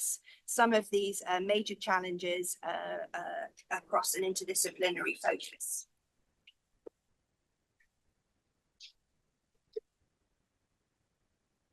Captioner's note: pause